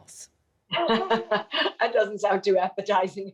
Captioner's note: laughs